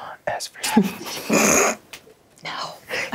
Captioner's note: laughs